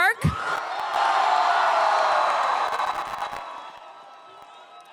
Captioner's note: crowd cheers